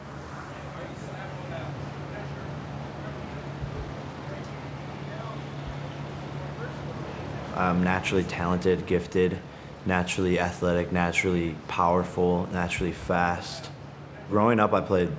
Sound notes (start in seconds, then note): 0.0 waves lapping